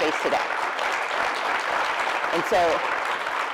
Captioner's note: applause